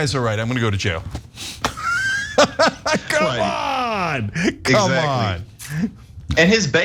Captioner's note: laugh